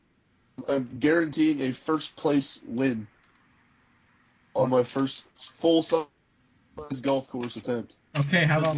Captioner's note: laughing